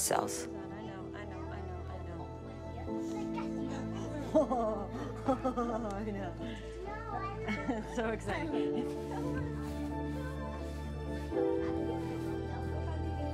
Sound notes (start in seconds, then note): 3.6 laughing; 3.6 giggling; 7.4 laughing; 9.5 soft instrumental music